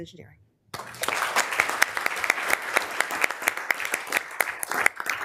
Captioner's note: members applauding